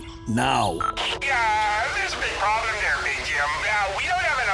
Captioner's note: Engineer Joe on loudspeaker